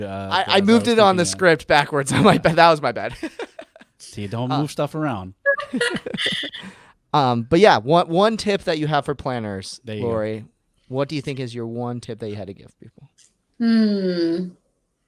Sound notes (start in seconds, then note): 3.3 laughing; 5.6 everyone laughing